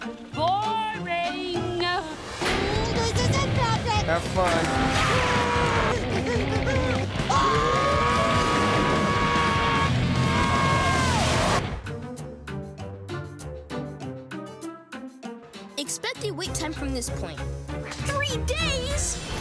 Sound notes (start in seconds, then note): 5.0 gasping; 7.2 screaming